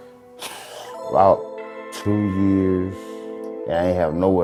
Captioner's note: sighing